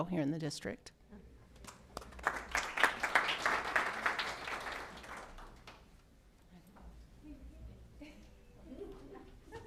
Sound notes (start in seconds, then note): 1.6 applause